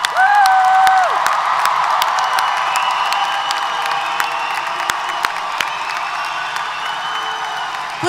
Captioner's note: applause & Cheers